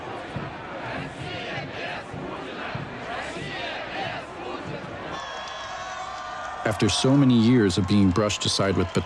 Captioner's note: people chanting in Russian; cheering